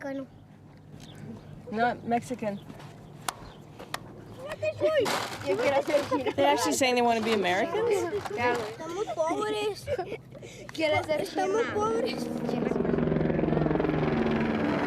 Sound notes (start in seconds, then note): 5.8 laughter